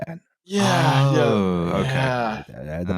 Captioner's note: laughter